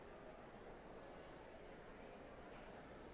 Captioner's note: none